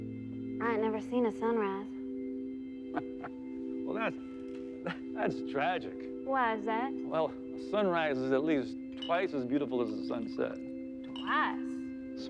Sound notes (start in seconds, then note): 2.9 chuckling